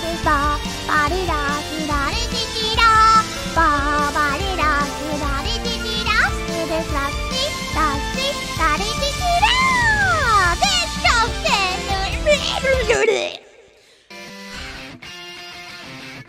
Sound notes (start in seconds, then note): 12.1 gremlin noises